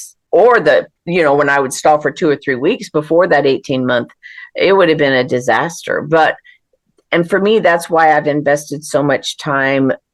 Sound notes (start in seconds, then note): none